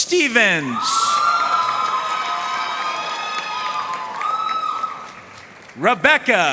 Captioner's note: audience cheering and applauding